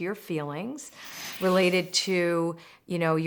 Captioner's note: loud whooshing